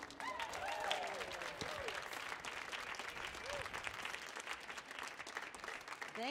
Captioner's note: audience cheering and applauding